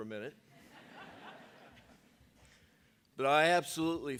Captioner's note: audience laughing